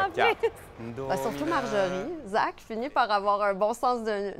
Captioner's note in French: rire